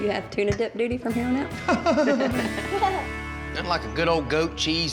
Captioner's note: laughter